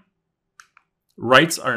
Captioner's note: remote clicking